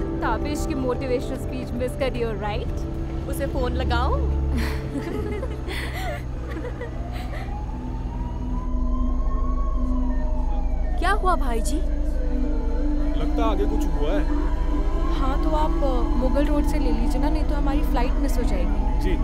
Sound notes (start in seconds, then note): 4.6 All giggling; 6.9 Police siren blaring